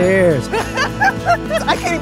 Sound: laughs

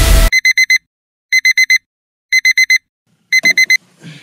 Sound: alarm Beeps

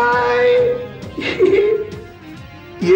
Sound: laughs

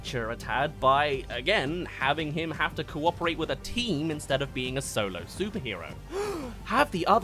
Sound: gasp

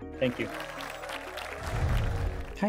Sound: applause

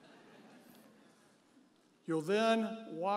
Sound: audience members chuckle

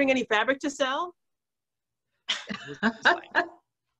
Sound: laughs

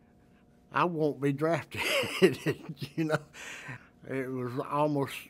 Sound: laughs

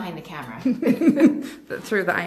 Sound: laughing

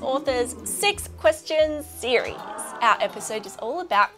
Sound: exclaiming

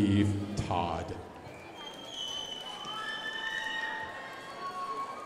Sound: crowd applauding

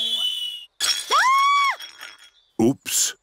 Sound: clattering and shrieking

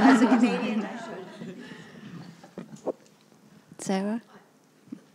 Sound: attendees laughs

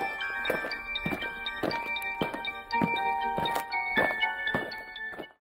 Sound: eerie music; aliens marching

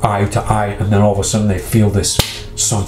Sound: hands clasping

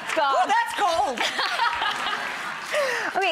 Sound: laughs

